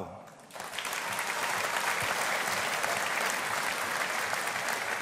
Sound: audience applauding

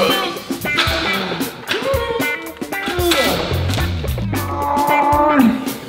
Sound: upbeat music; grunting

